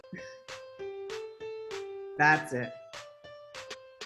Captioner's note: cheerful music; giggles